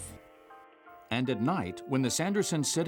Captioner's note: voiceover